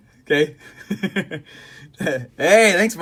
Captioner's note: laughs